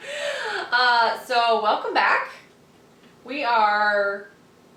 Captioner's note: laughing